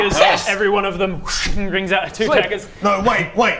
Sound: schhhing!

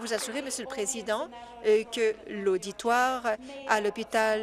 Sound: applause

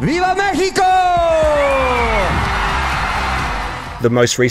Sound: audience cheering

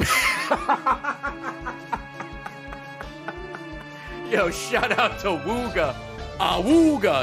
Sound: laughs

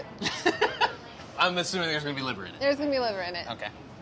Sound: laughs

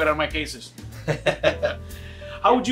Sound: both laugh

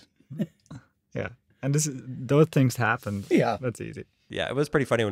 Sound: laughs

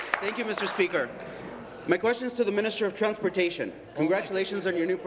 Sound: applause

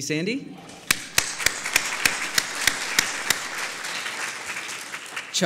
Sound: applause

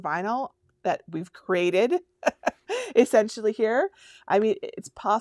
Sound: laughs

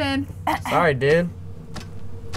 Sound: clears throat

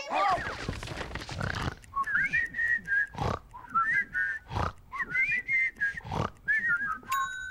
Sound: snoring and whistling lullaby

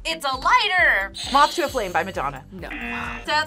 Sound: buzzer rings

